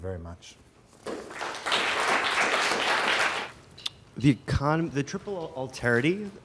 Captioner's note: audience applauding